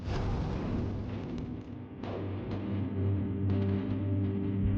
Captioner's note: explosions booming; menacing music